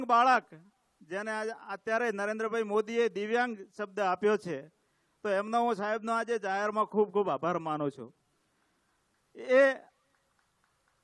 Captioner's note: applause